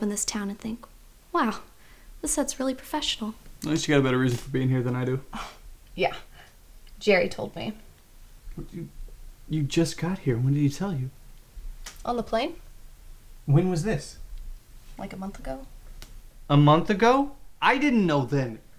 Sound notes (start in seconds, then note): 5.7 laughs; 8.2 sputters